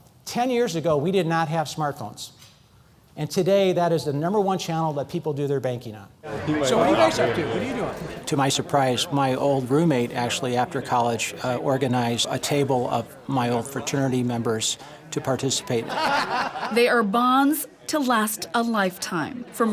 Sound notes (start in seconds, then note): 14.7 laughter